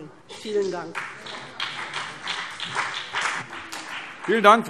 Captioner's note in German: Beifall BÜNDNIS 90/DIE GRÜNEN und CDU